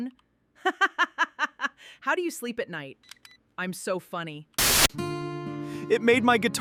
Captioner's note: laughter